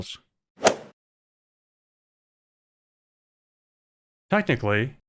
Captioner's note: golf ball hit sound